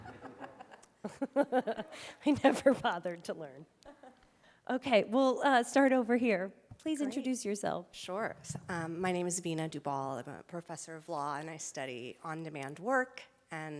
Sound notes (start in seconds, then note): 0.0 chuckling; 0.0 laughing